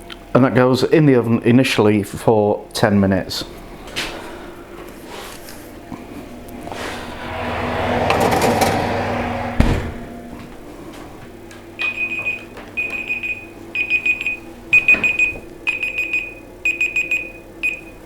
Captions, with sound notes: And that goes in the oven initially for 10 minutes. [ OVEN ROAR ] [ TIMER BEEPING MANICALLY ]